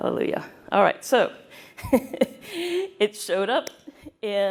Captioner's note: laughter